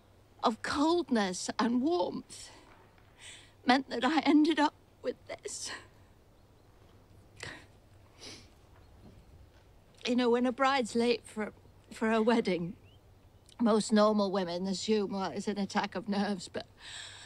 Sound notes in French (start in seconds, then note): none